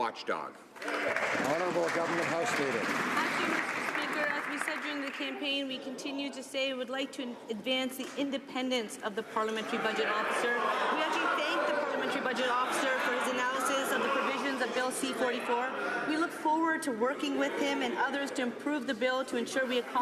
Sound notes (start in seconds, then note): 3.7 some Applause